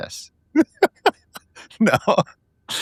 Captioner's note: laughing